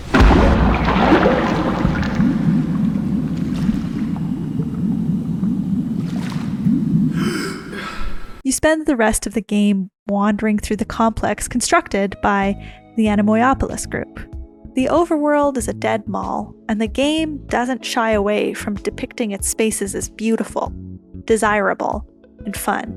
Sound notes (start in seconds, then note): 7.0 GASPING for air